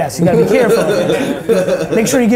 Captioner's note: laughing